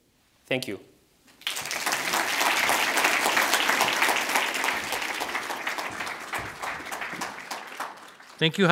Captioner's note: audience applauds